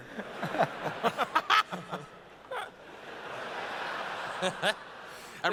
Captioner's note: laughter